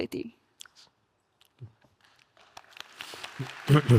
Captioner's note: audience applauding